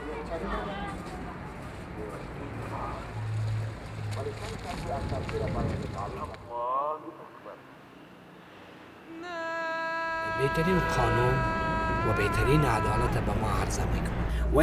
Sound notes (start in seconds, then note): 10.4 speaks in foreign language